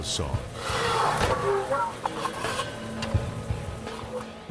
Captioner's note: saw buzzing